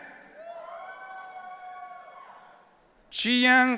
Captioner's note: audience cheering